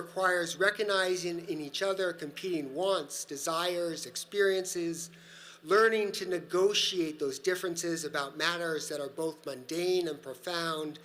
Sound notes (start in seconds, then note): none